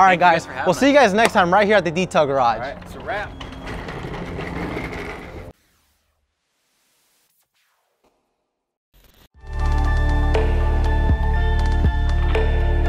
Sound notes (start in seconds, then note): 3.7 chairs rolling; 5.6 static noise; 9.4 calm electronic music